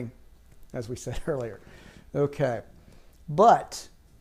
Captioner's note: chuckles